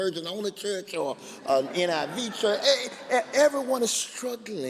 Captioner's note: laughing